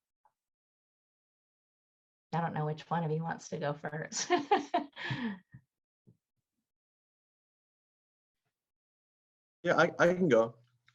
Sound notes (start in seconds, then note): 4.1 laughs